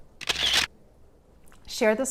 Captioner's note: camera shutting clicking